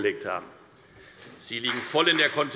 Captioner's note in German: Beifall bei der FDP